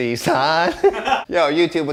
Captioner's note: laughing